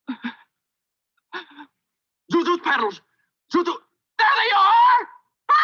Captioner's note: woman screams